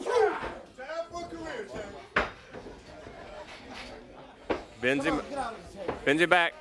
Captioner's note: crowd cheering